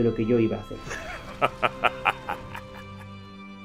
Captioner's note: laughs